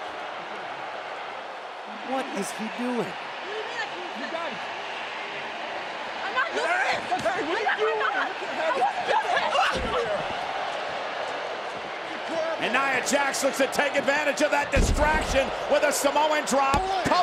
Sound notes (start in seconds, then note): 0.1 crowd boos; 9.4 crowd jeers